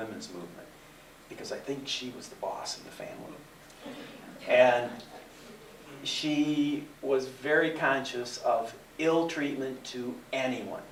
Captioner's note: laughter